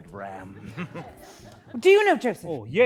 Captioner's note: laughter